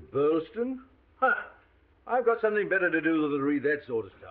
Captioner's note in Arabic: يسخر